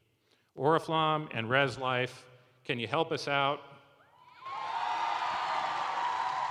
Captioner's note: cheering